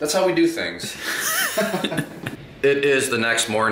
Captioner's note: laughter